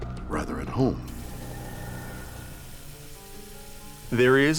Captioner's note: soft mysterious music; water runs